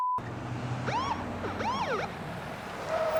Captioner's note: siren bloops